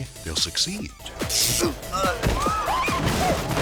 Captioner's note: electricity buzzes; grunts; bookcase thuds; interviewers exclaiming